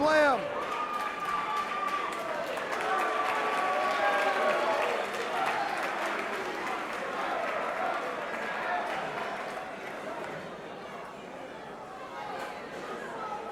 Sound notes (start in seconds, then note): 2.1 crowd chatter